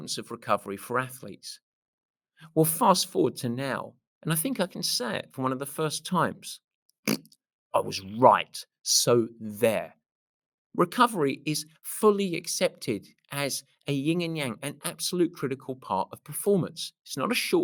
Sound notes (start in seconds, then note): 7.0 blows a rasberry